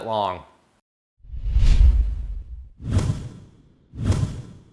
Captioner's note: whooshing